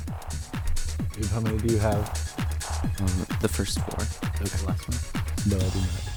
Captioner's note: whispering